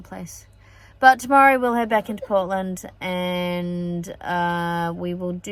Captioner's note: coughs